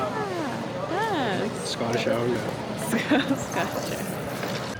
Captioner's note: laugh